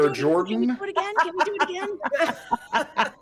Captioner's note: person laughing